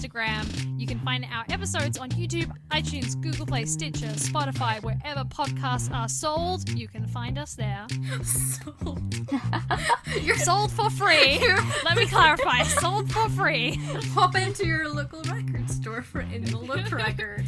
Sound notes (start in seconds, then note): 9.2 laughs